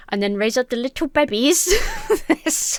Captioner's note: laughs